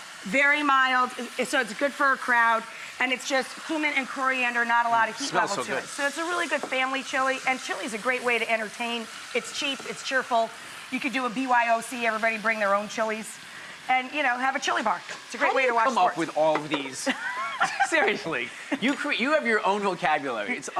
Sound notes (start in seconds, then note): 16.4 Rachael laughs